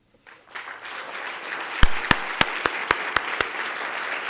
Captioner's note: applause